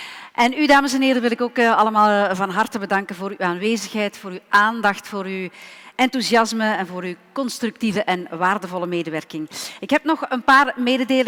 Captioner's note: speaking in Dutch